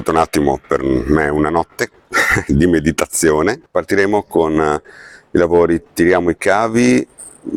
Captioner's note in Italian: schiarire la voce